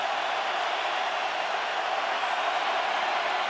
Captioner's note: crowd cheering